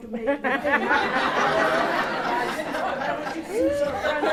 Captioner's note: laughter